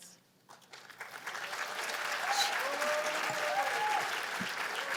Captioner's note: cheers and applause